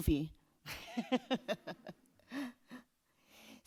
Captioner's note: laughs